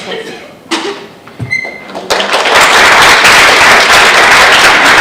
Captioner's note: audience clapping